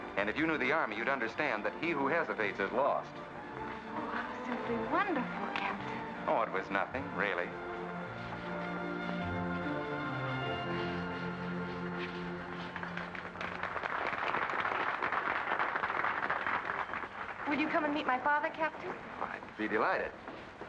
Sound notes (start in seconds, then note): 12.3 guests applaud